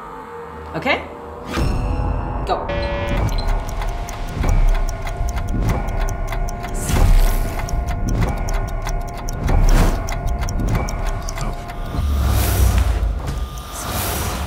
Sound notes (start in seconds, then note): 2.6 buzzer; 3.5 clock ticking